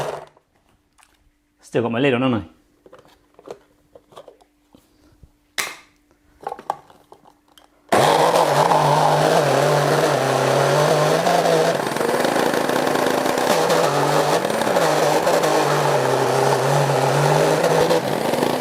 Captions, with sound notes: Still got my lid on, haven't I? (loud grinding)